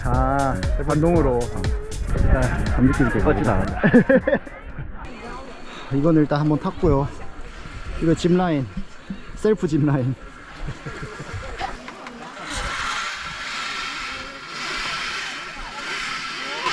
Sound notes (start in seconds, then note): 4.2 laugh